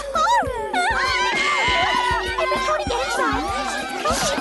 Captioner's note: all scream